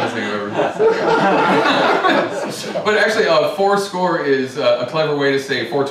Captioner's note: laughter